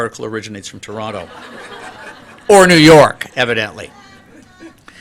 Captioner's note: laughter